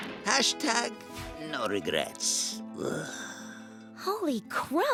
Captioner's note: groans